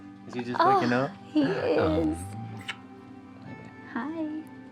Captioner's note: smooch